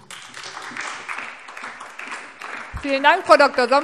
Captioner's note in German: Beifall SPD und DIE LINKE